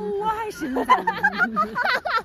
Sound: laughing

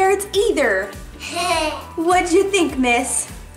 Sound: laughs

